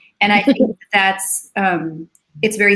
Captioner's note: laughs